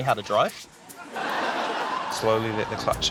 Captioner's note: laughter